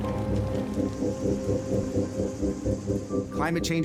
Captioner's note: crickets chirping